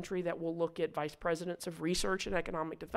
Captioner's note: none